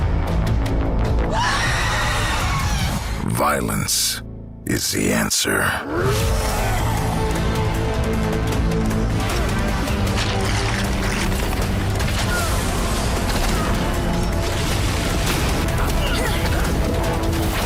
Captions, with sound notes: [Shrieking] Violence is the answer. [Roars]